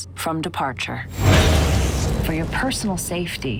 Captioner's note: whooshing